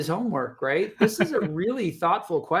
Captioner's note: chuckles